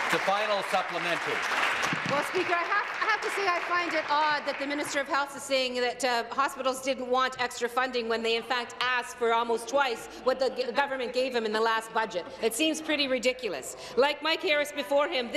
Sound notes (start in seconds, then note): 3.2 applause